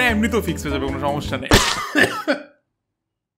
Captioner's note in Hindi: खांसी